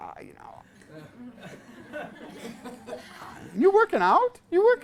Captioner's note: class laughs